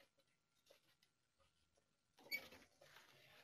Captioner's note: pause